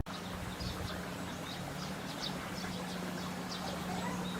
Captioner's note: birds chirping